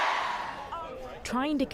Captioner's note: cheering